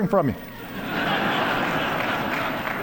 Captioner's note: applause